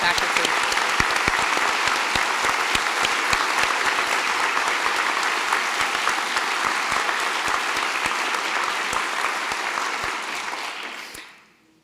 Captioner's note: applause